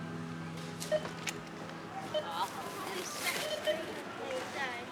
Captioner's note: checkout beeps